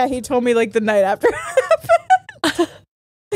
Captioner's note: laughs